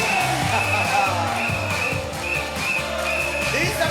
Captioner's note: chuckling